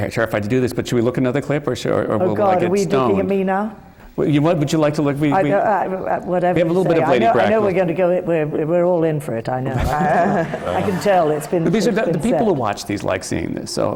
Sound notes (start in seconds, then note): 9.7 laughter